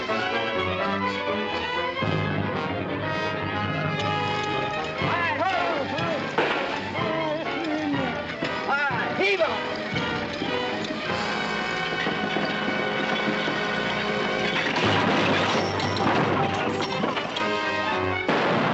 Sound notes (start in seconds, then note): 0.0 tense music; 14.6 crash; 18.1 tense music - gunshots